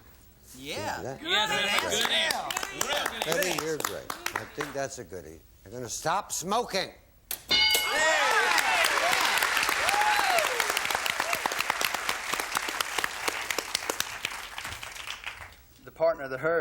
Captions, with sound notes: -Stop smoking. -That's a good one. Betty, you're great. I think that's a goodie. They're going to stop smoking. (bell) (applause)